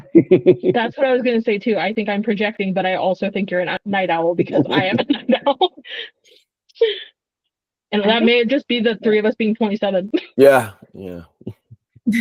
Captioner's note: laughs